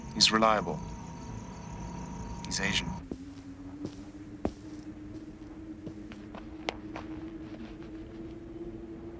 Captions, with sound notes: He's reliable. He's Asian. (wind howling)